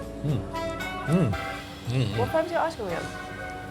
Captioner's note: hums